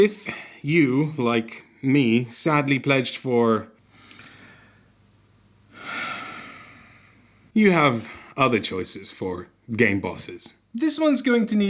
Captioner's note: deep sigh